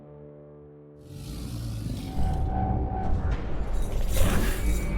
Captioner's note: Dweller snarling; chains rattling